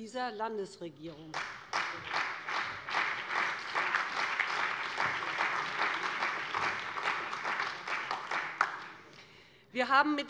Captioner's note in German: Beifall bei dem BÜNDNIS 90/DIE GRÜNEN und der CDU